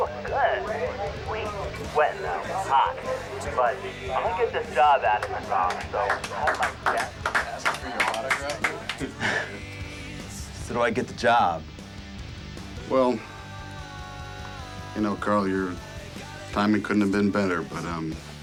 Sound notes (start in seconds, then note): 6.0 audience applauds